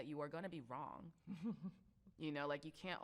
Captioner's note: chuckles